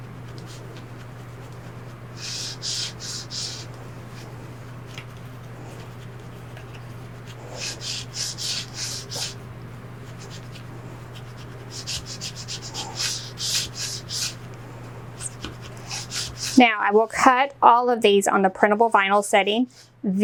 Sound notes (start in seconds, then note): 3.0 scrapping